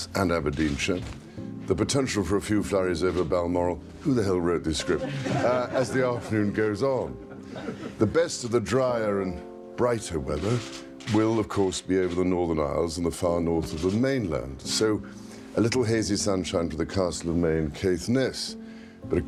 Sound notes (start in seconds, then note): 4.7 laughter